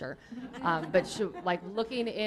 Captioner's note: laughter